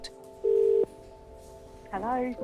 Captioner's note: phone rings